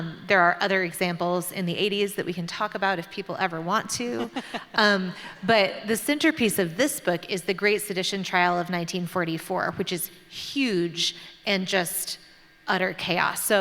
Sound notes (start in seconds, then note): 4.1 laughter